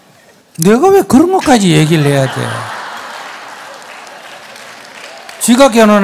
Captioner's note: audience laughs/claps